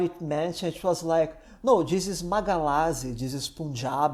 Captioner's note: malayalam